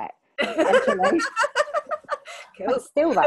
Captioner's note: laughing